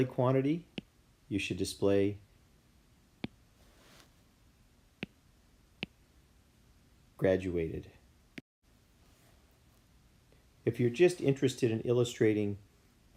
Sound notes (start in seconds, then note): 5.0 iPencil noises